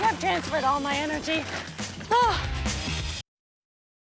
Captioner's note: sighs